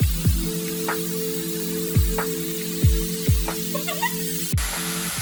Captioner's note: giggles